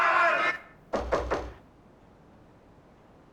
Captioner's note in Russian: стук в дверь